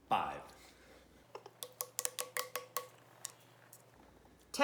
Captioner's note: fast Forwarded Sounds